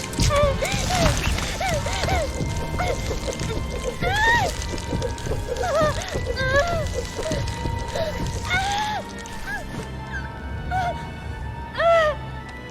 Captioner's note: in-game audio